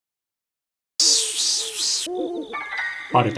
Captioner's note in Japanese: セミの鳴き声